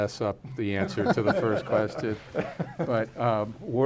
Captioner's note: laughs